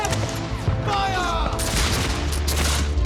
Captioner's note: men shouting; rifles firing